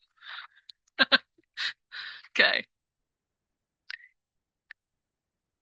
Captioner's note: laugh